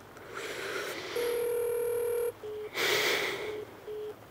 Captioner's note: Phone ringing